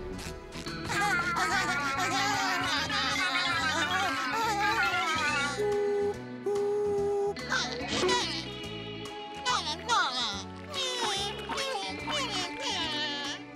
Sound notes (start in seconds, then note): 0.8 laughing; 5.5 imitates a train